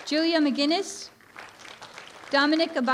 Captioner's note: applause